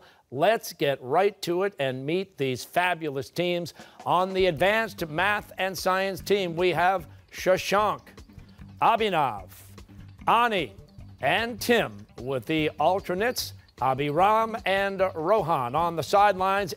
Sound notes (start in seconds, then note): none